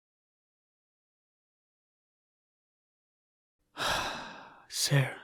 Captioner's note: sigh